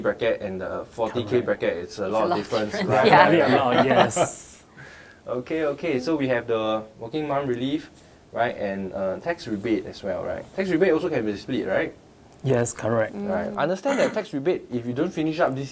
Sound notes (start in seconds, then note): 2.1 laughing